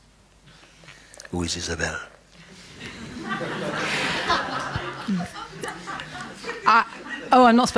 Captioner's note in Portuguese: risos